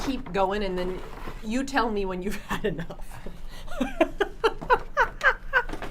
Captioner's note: laughs